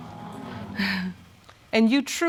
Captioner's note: chuckles